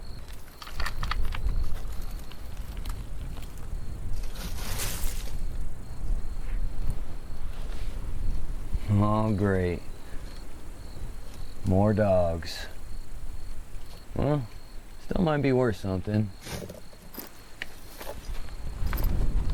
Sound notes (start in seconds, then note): 0.2 branches clacking; 3.8 leaves rustling; 12.0 insects chittering; 15.9 hiking gear rattling; 18.2 wind rustling; 19.3 crickets chirping